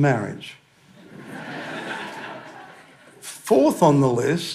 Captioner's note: laughter